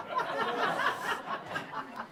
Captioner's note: laughter